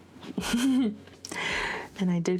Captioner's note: laughs